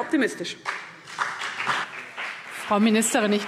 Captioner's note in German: Beifall CDU und BÜNDNIS 90/DIE GRÜNEN